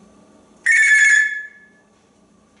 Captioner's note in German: telephone sound